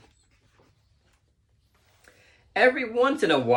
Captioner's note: page turning